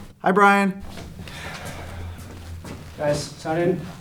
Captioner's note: sighs